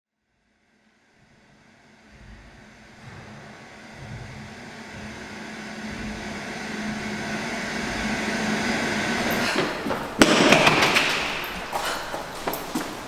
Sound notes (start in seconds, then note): 0.0 white noise, loud stomps growing louder; 9.1 panting, heavy footfalls